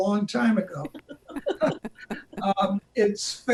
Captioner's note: chuckle